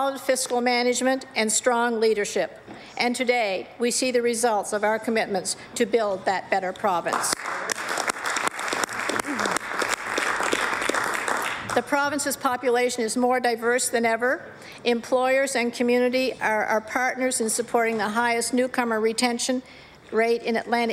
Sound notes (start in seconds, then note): 15.9 applause